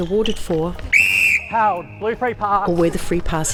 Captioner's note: whistle